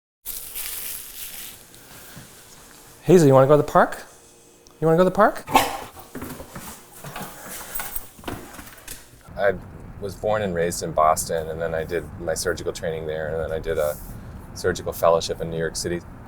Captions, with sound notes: Hazel, want to go to the park? You wanna go to the park? You wanna go to the park? (Bark) I was born and raised in Boston, and then I did my surgical training there and then I did a surgical fellowship in New York City.